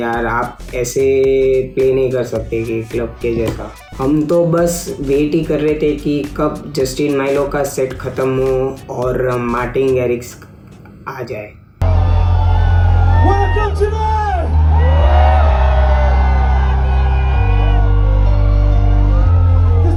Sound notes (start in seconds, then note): 11.9 greets crowd in Tamil; 16.0 crowd Wooting